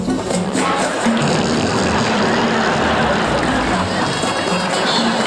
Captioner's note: breaks wind loudly